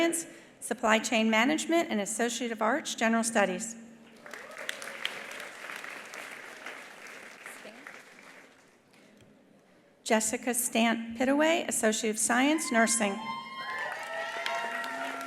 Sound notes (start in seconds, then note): 4.1 attendees applauding; 4.2 attendees cheering; 12.5 attendees cheering; 13.5 attendees applauding